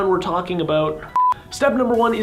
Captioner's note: beeping